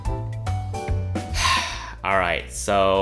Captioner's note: heavy sigh